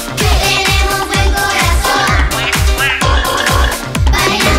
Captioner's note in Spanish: Sonido de animales